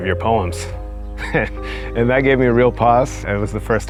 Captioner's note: laughs